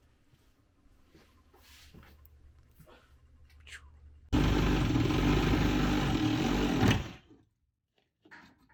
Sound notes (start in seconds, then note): 4.3 machine drilling